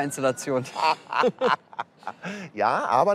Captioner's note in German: Lachen